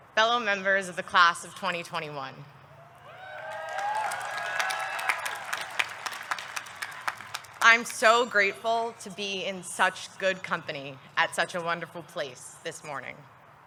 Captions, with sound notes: fellow members of the class of 2021. (audience clapping) (audience cheering) I'm so grateful to be in such good company at such a wonderful place this morning.